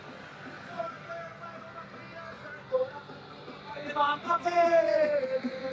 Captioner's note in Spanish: charla confusa